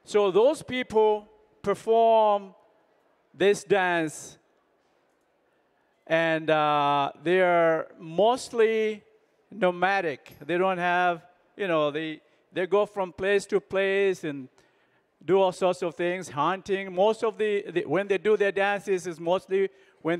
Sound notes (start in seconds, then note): none